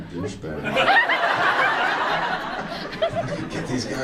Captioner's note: audience laughs